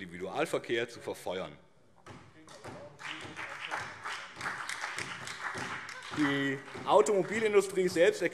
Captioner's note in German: Beifall BÜNDNIS 90/DIE GRÜNEN und CDU